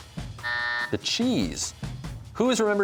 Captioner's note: buzzer sounds